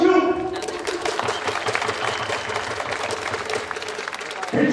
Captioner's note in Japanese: 拍手